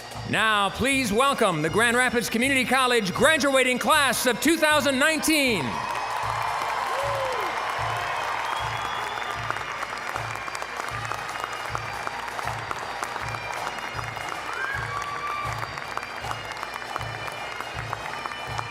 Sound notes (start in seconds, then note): 5.9 applause, cheering; 5.9 bagpipe music